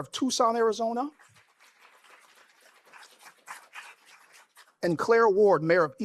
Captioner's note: applause